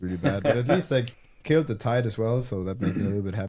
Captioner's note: laughs